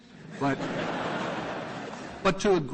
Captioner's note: laughter